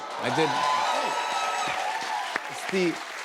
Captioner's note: cheers and applause